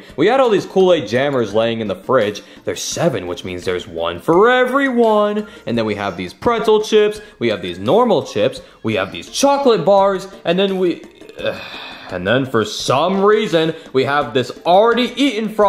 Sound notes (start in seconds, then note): 11.2 sighs